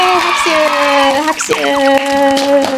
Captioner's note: clapping